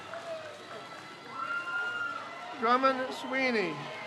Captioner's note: crowd cheers